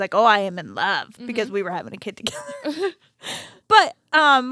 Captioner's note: laughs